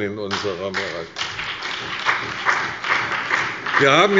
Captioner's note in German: Beifall bei der CDU und dem BÜNDNIS 90/DIE GRÜNEN